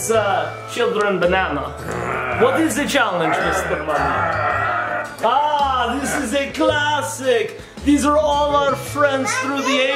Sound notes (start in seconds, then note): 1.8 mummy growling